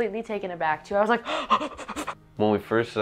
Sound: gasps

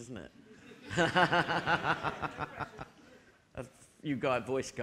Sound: audience laughing

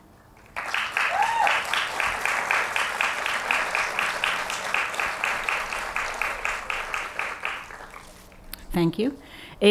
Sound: applause

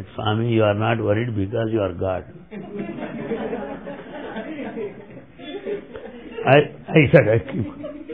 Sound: laughter

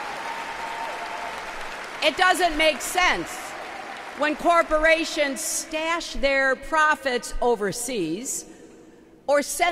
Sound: applause

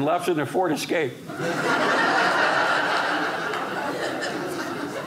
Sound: audience laughing

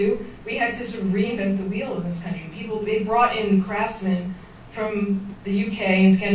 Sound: none

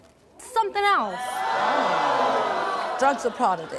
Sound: audience jeering

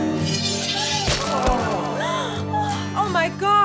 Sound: all gasp

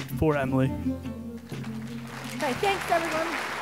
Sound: applause

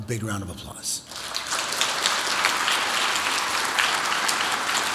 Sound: audience applauds

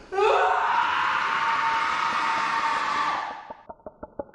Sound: screaming

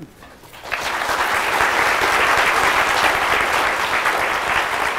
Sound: audience applauds

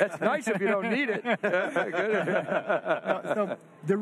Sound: group laughter

